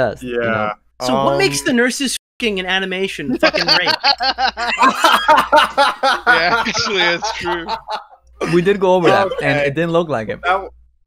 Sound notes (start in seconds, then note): 3.3 laughs